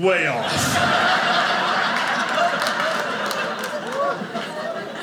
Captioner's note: audience laughing